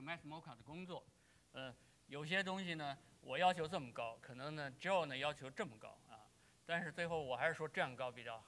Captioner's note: speaking in Chinese